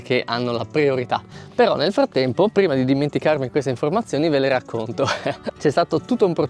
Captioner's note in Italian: risate